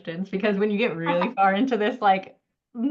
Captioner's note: laughs